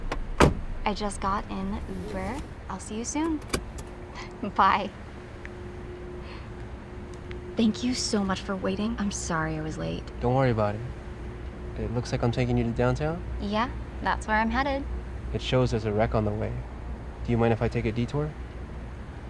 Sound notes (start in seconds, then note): 3.2 seat-belt buckles